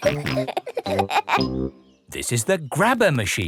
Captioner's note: peppa and george laughing